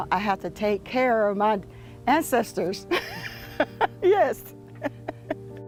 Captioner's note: laughs